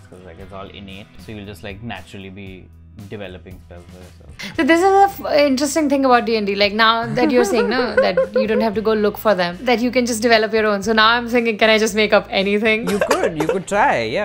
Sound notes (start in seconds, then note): 7.0 laughter